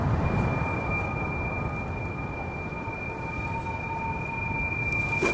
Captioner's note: high pitched frequency